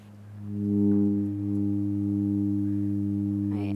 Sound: tuba-like sound from tube

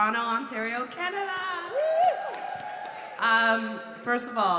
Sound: audience cheering

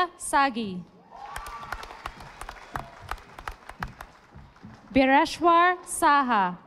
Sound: audience applauding

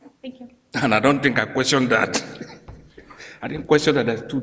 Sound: chuckles

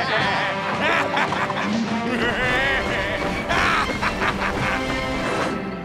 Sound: laughing; cackling

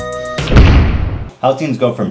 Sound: door slams

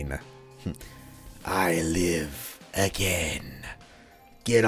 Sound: caleb voice

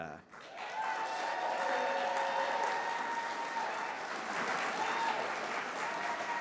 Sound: applause

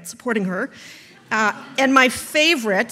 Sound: audience laughs

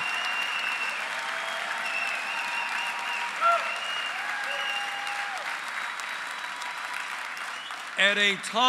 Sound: applause

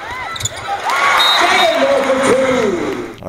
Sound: shoes squeaking; crowd celebrates

